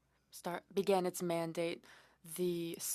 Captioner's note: speaking French